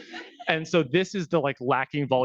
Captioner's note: attendees laughing